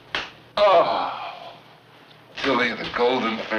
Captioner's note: moans